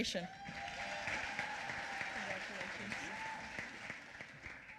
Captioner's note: applause